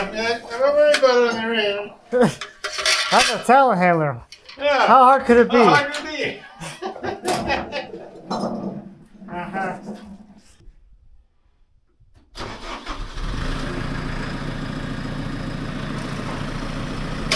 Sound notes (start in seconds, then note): 6.4 both laughing; 12.3 engine turning over